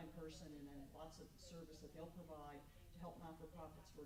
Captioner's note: stammers